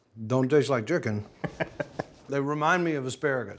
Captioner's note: laughing